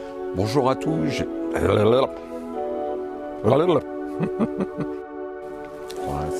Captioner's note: laughs